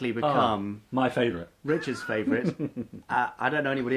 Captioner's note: laughs